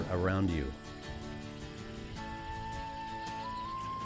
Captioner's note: birds chirping